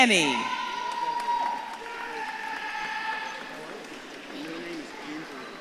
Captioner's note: audience claps and cheers